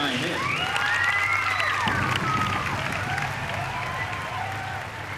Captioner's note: cheering